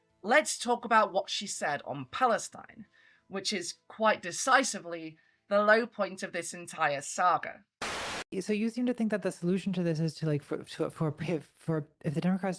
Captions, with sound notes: let's talk about what she said on Palestine, which is quite decisively the low point of this entire saga. [static]